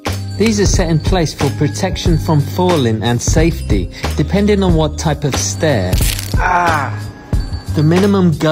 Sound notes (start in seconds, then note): 6.0 crunch ooch